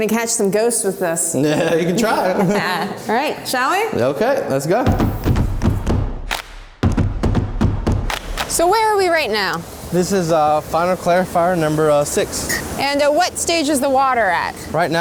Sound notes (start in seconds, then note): 2.0 laughing; 4.8 upbeat music